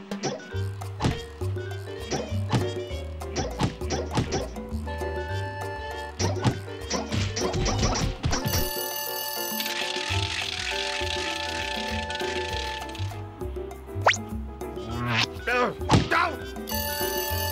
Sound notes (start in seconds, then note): 8.5 bell ringing; 9.9 tickets clicking